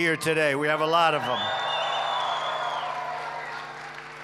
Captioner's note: applause